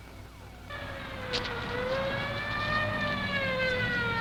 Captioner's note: sirens alarming